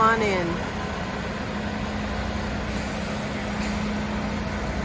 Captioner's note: engine running